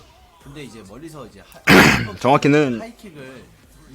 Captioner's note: ahem